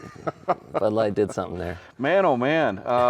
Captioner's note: host laughing